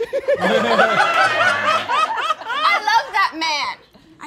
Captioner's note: all laughing